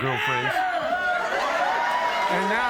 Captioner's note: crowd cheering